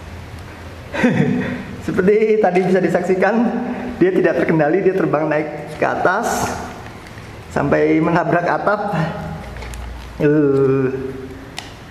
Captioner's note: chuckle